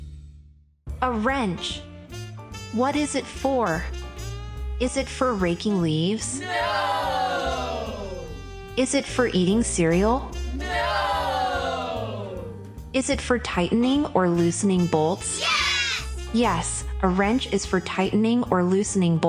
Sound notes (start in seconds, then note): 6.3 group of children shout “Nooooo”; 10.4 group of children shout “Nooooo”; 14.9 group of children shout “Yes”